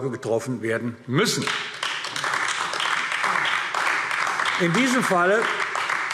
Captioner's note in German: Beifall AfD